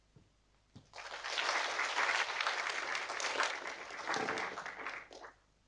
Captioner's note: audience applauding